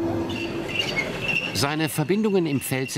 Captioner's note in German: Quietschen